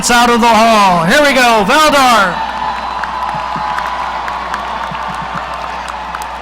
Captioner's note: audience cheering